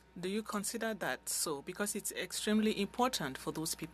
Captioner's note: speaking French